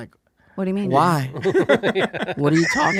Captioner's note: all laughing